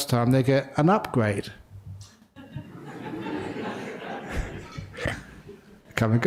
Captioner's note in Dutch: lachen